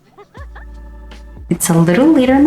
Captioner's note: Beth laughs